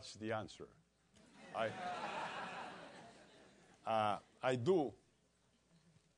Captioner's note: laugh